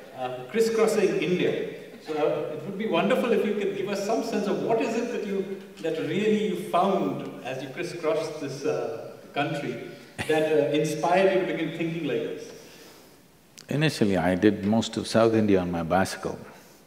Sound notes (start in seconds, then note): 10.2 Sadhguru laughs